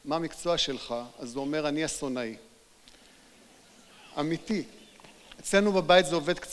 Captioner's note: audience laugh